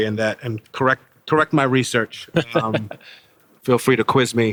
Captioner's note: James laughing